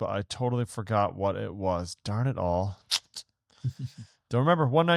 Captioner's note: lip smack; laughs